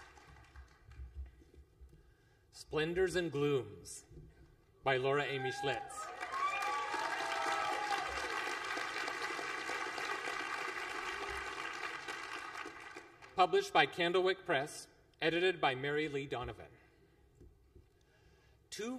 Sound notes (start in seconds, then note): 10.6 applause